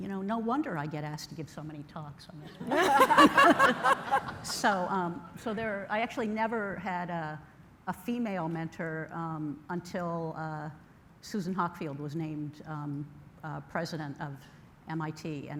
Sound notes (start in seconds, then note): 2.5 laughter